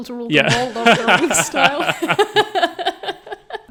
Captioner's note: all laughing